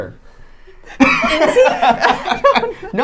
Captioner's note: laughing